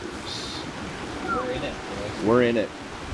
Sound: whistle

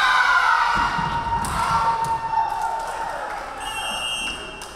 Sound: crowd cheering; referee whistling

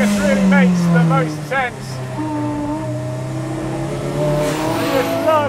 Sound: car engine roars

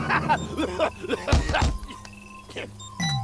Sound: coughing; beeping, tapping on machine

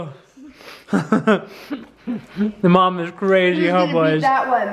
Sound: chuckling

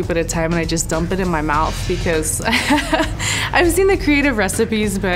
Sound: laughing

